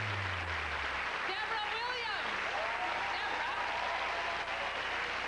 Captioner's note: loud cheers and applause